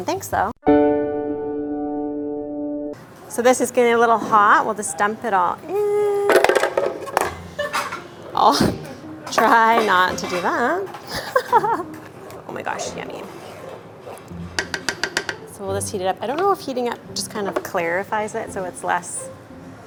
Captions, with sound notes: Thanks though. (sad music) So this is getting a little hot. We'll just dump it all in. (plastic rattles) I'll try not to do that. (giggles) Oh my gosh. Yummy. (spoon taps) So we'll just heat it up. I dunno if heating up just kind of clarifies it, so it's less...